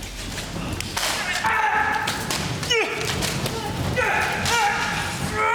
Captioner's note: soldier groaning